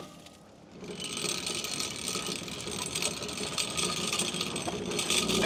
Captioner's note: wood clanging; log saw rattling